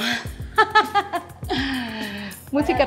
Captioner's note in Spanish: risas